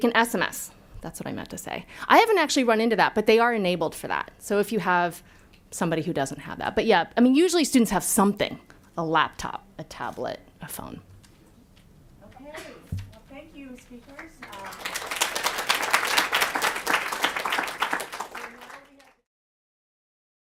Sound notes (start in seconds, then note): 14.0 applause